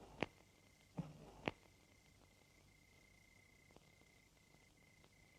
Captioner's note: crickets chirping